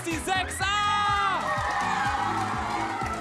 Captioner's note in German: Jubel